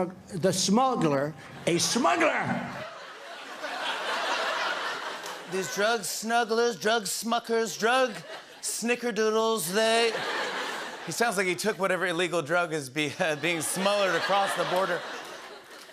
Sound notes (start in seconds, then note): 2.6 laughter; 9.8 laughter